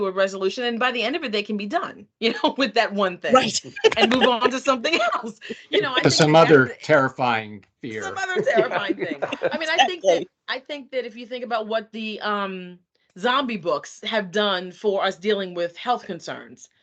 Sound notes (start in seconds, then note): 3.3 laughing; 3.3 chuckling; 8.0 laughing